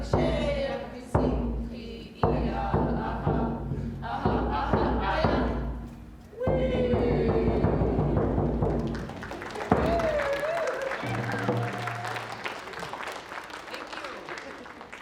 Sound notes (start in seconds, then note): 0.0 drumming and singing; 8.6 applause